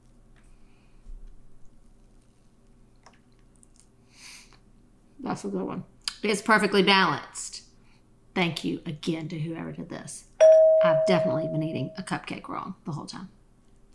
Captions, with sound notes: (exhales sharply) That's a good one. It gets perfectly balanced. Thank you, again, to whoever did this. (bell dinging) I have definitely been eating a cupcake wrong the whole time.